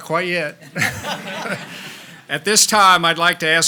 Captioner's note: laughs